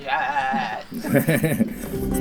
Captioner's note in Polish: śmiech